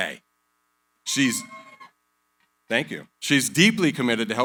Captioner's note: cheering